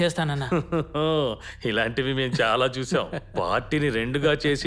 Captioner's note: sarcastically